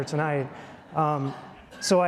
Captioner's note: audience chuckling